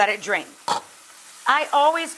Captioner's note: pot lid taps counter